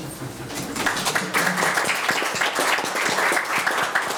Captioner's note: applauding